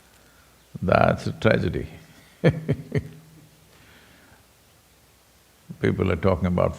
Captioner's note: laughs